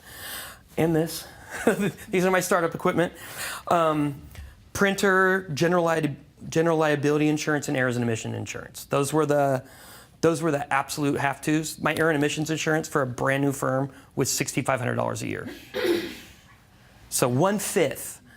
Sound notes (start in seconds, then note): 1.6 laughing